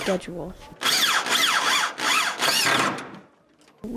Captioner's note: drill nat sound